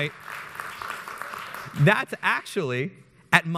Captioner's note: audience applauds